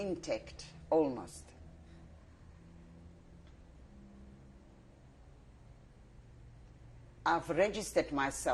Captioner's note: pauses for 6 seconds